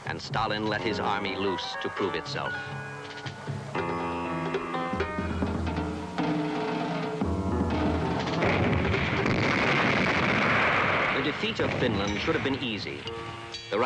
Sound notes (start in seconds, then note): 2.6 erratic suspenseful music; 7.7 guns blasting